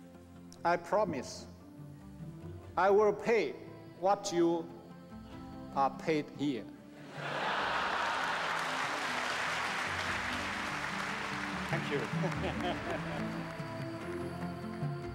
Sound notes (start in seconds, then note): 7.1 laughter; 8.7 applause